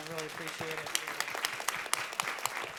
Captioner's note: applause